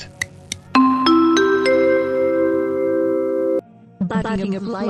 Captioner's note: airport announcement chime